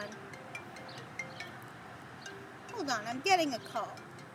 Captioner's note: phone rings again